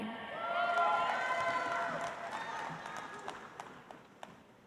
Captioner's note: audience applauds